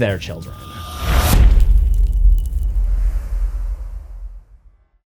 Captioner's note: impact